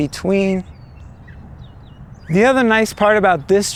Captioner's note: bird calling